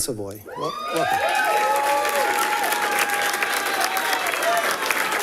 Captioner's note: people cheering and clapping